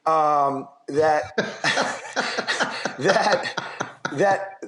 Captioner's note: laughs